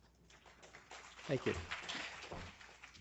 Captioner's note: applause